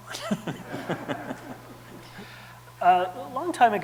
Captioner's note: audience laughing